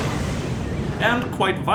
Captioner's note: boom